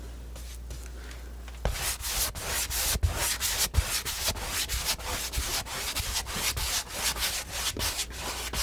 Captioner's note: scratching